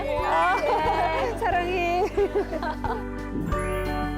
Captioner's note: laughter